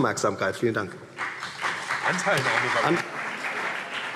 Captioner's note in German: Beifall CDU